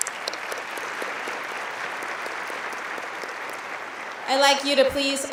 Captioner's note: applauding